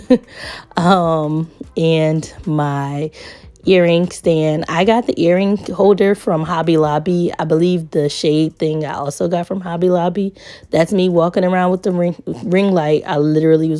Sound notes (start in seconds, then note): 0.0 chuckles